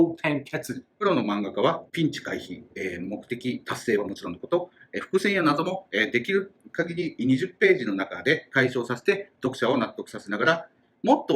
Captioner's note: speaking Japanese